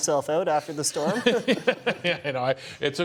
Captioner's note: laughs